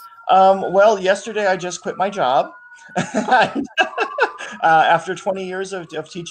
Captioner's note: laughs